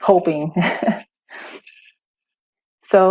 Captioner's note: chuckles